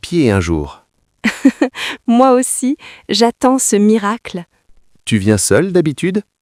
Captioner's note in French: rire